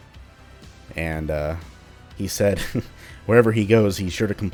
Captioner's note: chuckles